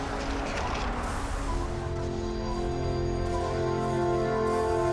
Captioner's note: lightning crashing